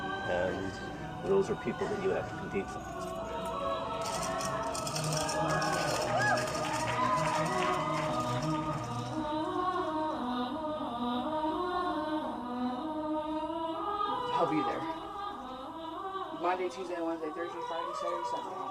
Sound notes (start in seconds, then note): 5.1 crowd cheering, clapping